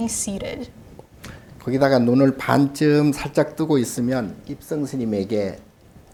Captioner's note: speaking Korean